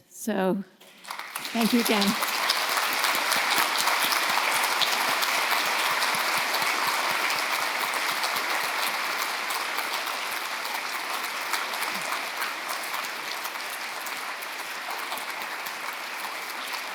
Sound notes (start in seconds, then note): 2.5 audience applauding